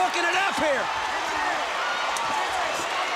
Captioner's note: crowd chatter